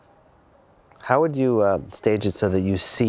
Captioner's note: voiceover